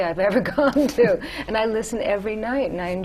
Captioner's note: laughter